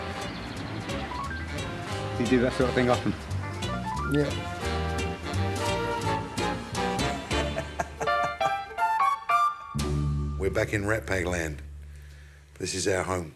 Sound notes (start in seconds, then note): 7.1 laughs